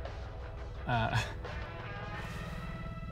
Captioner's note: chuckles